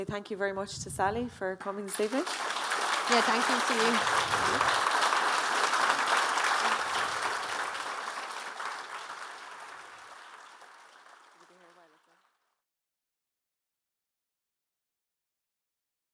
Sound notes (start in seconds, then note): 2.8 audience applauding; 5.0 audience applauding